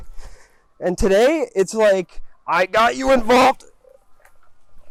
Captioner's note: straining